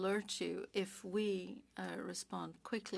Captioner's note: speaking French